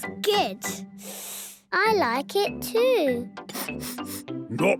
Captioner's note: sniffing; sniffs